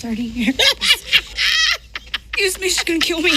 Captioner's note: cackles